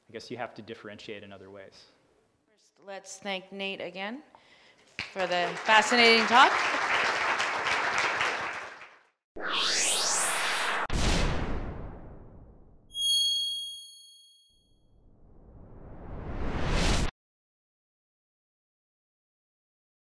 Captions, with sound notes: I guess you have to differentiate in other ways. - First, let's thank Nate again for the fascinating talk. (clapping) (whoosh) (ringing) (whoosh)